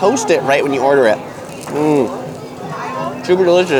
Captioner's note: bread crunching